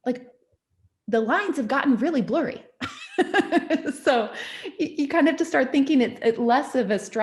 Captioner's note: laughs